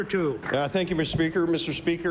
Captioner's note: applause